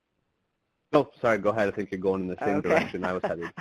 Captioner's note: voice muffled